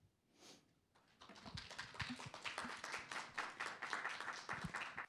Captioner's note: applause